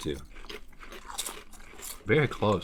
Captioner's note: crunching